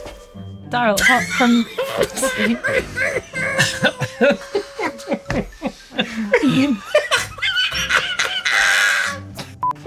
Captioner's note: laughing uncontrollably